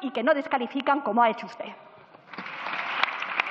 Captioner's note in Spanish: Aplausos